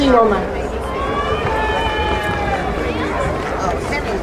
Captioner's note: crowd cheering